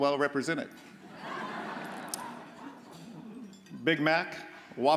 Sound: audience laughs

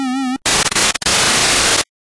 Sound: static

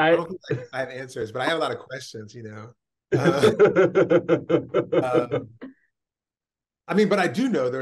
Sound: laughs

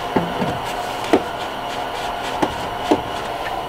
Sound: pipe thumping

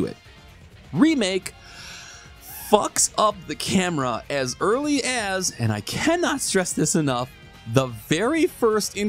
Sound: gigantic breath

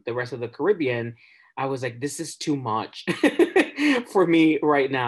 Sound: laughs

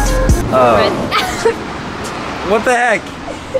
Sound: laughs

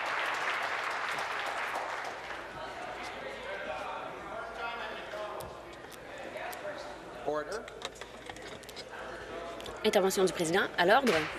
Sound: applause

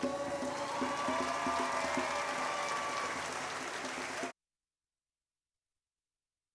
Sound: audience cheering and applauding

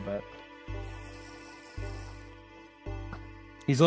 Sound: drinking noises

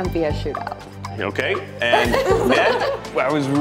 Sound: laugh

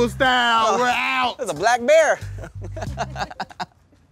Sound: laughing

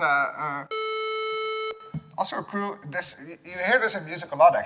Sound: beep

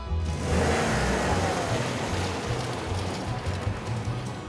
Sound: engine revving

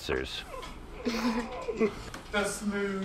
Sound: chuckles

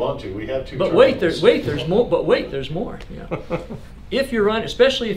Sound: laughs

